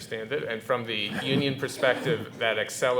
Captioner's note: chuckling